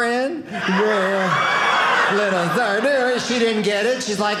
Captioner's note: audience laughing